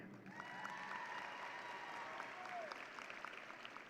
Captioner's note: audience cheering